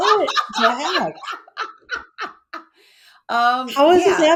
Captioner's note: laughs